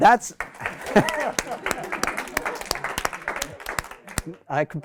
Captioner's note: applause